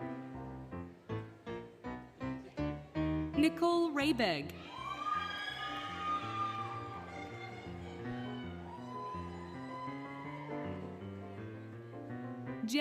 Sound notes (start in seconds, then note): 4.5 applause, Cheering, Music